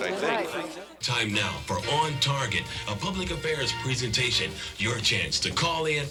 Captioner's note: radio voice